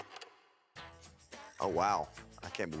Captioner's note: film reel clicks